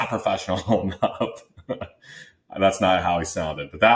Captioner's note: laughs